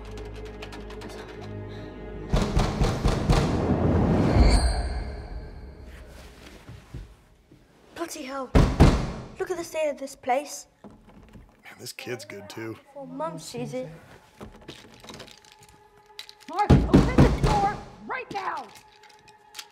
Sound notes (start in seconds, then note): 0.1 door knob rattles; 2.3 banging on the door continues; 8.5 banging on the door in the background; 14.4 door knob rattles; 14.5 more banging on the door